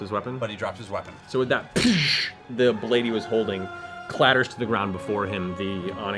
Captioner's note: bullet impact